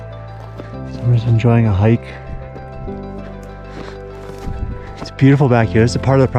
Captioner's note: footsteps crunching